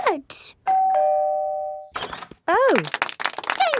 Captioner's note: doorbell ringing; crowd applauding